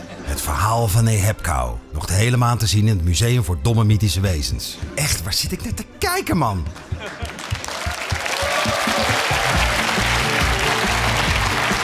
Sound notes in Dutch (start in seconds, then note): 9.8 applaus